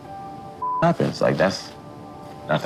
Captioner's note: beep